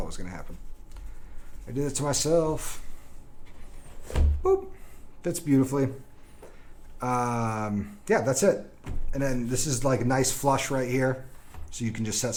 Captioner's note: boop